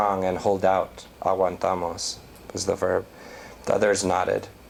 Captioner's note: non-english